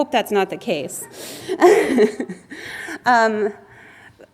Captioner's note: laughs